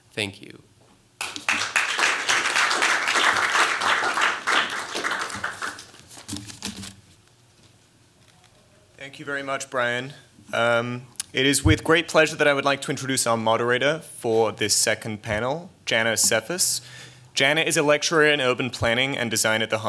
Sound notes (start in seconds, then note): 1.2 applause